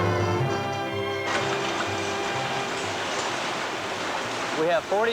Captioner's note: machine noise